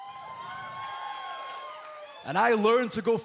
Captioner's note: cheers and applause